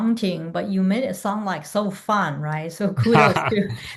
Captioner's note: chuckles